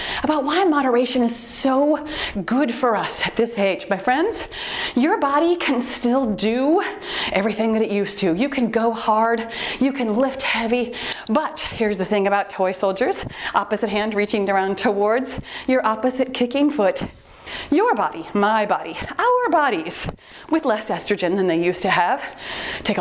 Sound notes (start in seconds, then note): 11.0 timer beeps